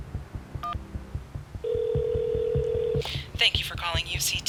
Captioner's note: line ringing